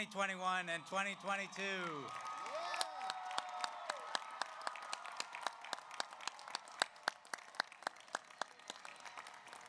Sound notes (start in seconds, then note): 0.7 audience cheers; 1.5 audience applauds